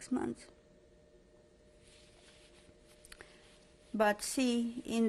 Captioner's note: pauses for 3 seconds